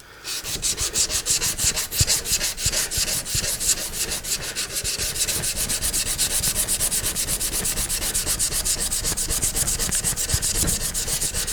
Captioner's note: sanding